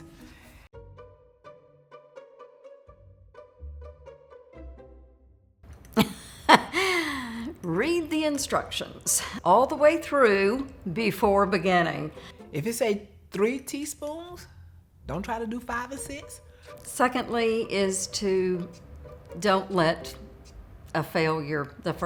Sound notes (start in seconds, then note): 0.0 gentle music; 5.9 softly laughs